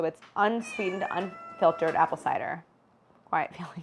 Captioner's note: Felix meows